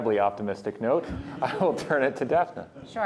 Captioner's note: laughter